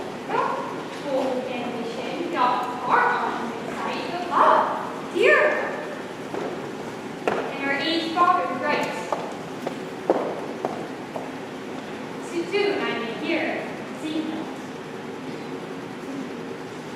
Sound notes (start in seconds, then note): none